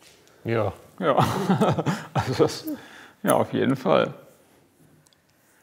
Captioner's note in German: Friseur lacht